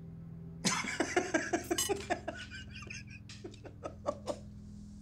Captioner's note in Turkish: Gülüyor